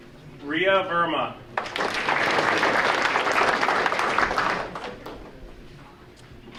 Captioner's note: audience applauding